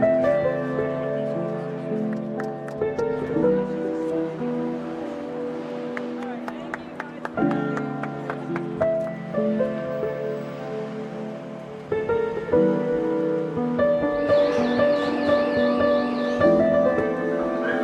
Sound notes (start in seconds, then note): 7.0 hands smacking; 14.3 alarm blaring